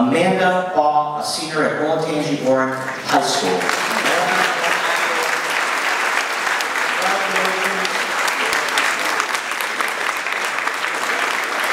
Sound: applause

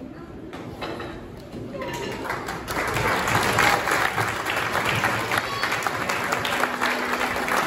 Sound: applause

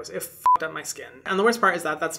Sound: beep

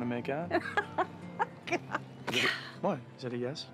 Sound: laughing

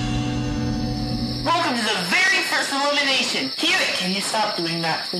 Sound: cricket sounds

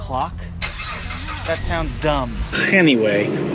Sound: car starts

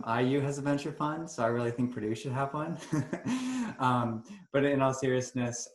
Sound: chuckles

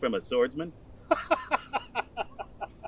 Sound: Magnar laughs

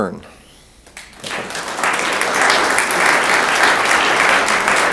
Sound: room applauds

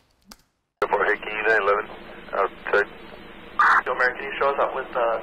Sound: police radio chatter

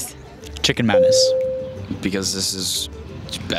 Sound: ding

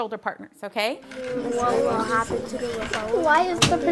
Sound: overlapping chatter

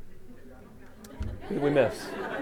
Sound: laughter

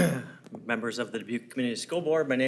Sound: clears throat

